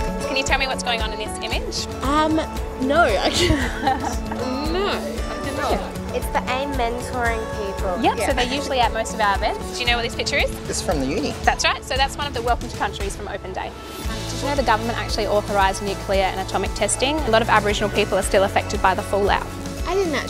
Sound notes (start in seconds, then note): 3.2 laughs